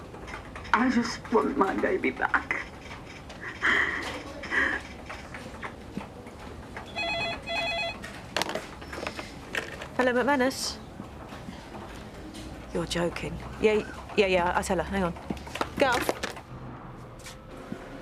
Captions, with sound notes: - I just want my baby back. (phone ringing) - Hello? MacManus. You're joking. Yeah, yeah. I'll tell her, hang on. Gov?